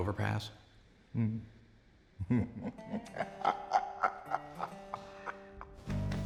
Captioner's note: chuckling